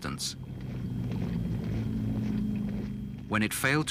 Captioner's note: engine rumbling